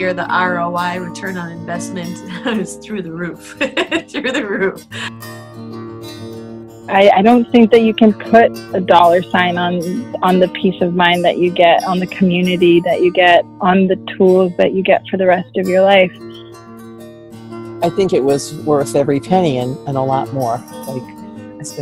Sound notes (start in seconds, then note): 3.4 chuckles; 3.4 laughing